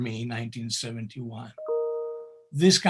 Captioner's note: bell chimes